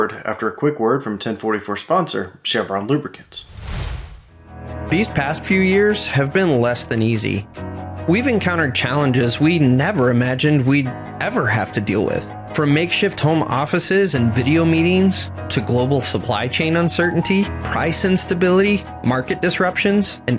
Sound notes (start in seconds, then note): 3.2 whooshing; 4.6 light music